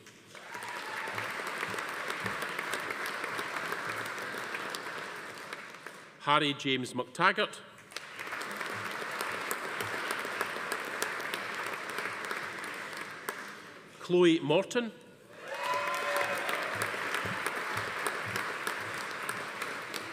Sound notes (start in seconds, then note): 0.2 audience applauding; 0.3 attendee cheering; 7.9 audience applauding; 15.3 attendees cheering; 15.4 audience applauding